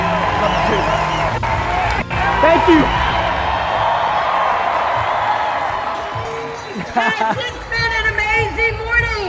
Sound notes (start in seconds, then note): 3.6 applause; 7.2 laughing